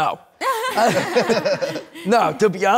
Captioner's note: everyone laughs